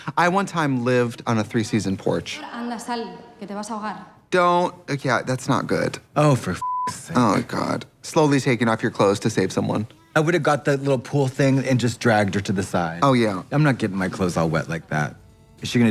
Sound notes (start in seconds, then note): 6.6 beep